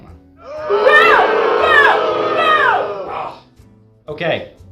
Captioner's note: audience booing